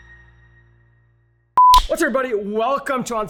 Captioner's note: beep